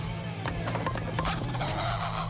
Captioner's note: LiMu squawks